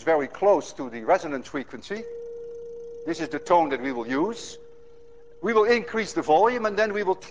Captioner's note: plays high tone